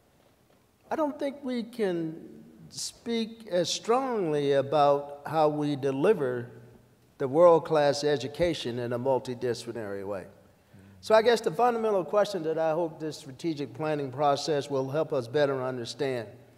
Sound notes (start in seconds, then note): none